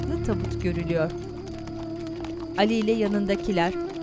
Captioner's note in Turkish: At nalı sesleri